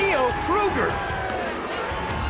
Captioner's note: crowd cheering